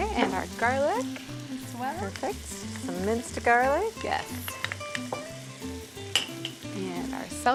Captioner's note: sizzling